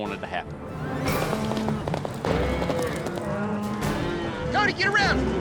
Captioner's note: hoof beats